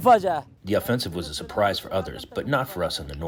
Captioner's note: through translator